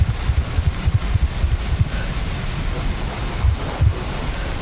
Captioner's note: heartbeat slowing